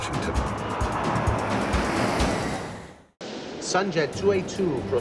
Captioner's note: dramatic music; jet whooshing